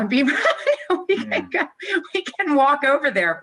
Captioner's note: laughs